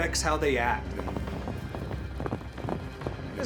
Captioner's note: hoofbeats